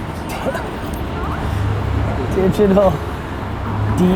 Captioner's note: laughs